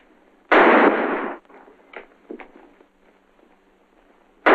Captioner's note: gunshots